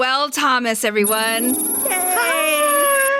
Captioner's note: harp gliss & scifi computer typing sounds